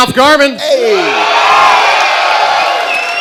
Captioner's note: cheering